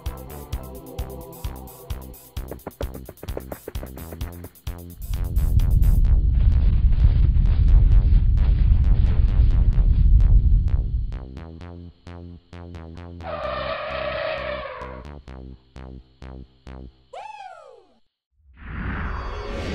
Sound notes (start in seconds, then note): 4.9 low rubmle; 10.9 mammoth trumpeting